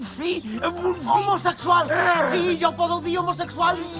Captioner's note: grumbles